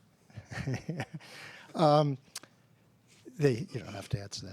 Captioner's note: laughs